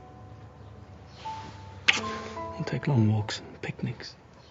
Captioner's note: kiss smacking